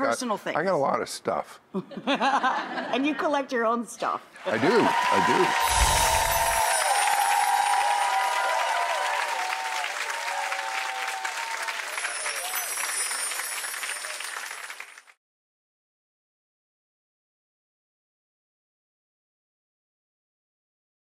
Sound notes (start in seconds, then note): 1.9 laughing; 5.3 cheering; 5.6 glistening chimes